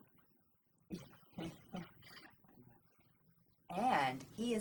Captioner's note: chuckling